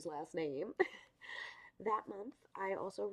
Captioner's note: giggles